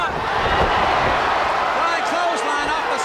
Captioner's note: audience cheers